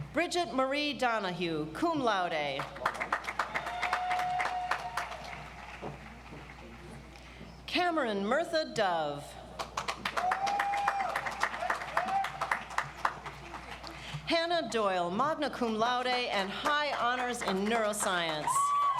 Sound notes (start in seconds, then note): 2.6 audience applauds; 9.6 audience applauds